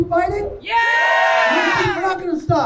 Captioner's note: crowd